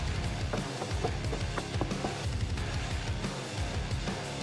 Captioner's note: hammer thudding